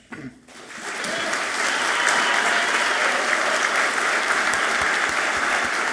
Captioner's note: audience clapping and cheering loudly